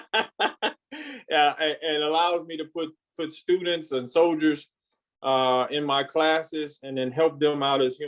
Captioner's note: laughs